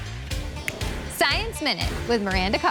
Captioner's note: snapping fingers